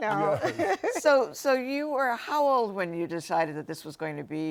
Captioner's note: laughter